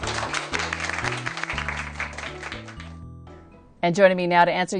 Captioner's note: applause